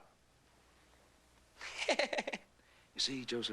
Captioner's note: chuckles